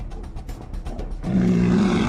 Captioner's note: growling